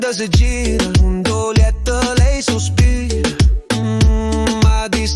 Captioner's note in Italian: mmmmm